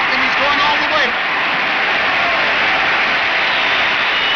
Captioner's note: crowd cheers